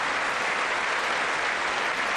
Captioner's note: applause